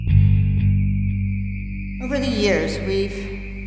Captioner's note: voice-over